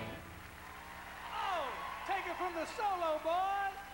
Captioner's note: crowd cheering